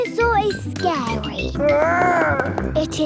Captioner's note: growls